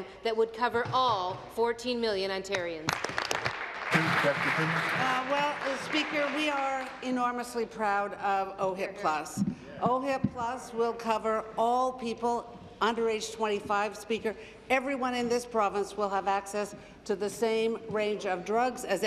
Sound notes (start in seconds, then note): 6.9 applause